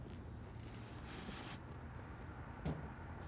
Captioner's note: vehicle approaching